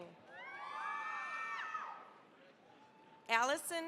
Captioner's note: cheering, applause